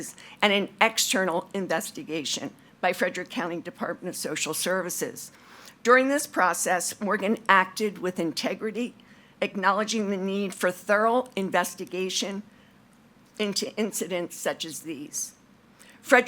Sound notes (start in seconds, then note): none